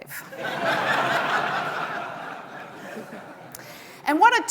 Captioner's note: audience laughing